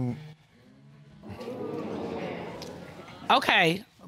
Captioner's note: audience gasping